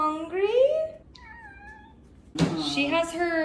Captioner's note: Luna meows again